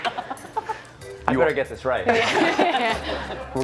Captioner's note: laughter